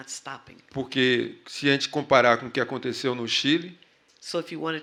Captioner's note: speaking portuguese